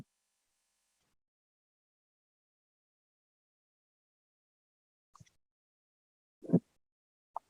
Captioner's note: silence